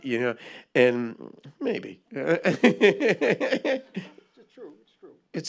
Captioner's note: laughs